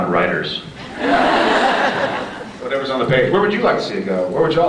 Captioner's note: laughs